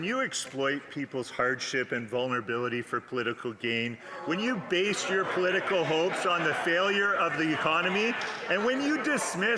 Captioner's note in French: voix de l'interprète